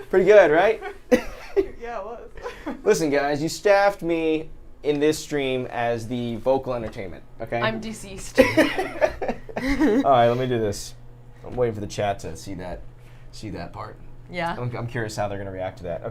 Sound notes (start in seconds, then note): 8.4 laughs